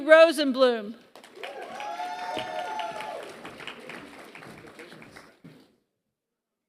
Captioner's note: applause